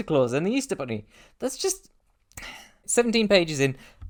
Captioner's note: catching breath